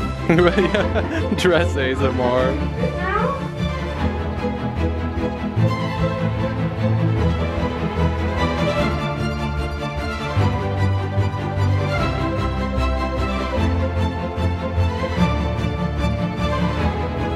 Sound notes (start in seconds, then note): 0.2 laughs; 2.6 soft background chatter; 2.6 uptempo String Music